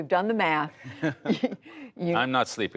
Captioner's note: laughter